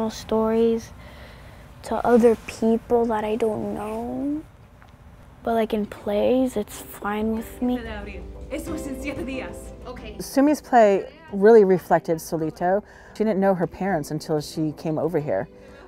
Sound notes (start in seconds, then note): 7.1 actress speaking foreign language